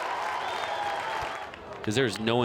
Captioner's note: crowd cheering